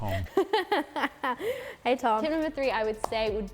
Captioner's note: laughs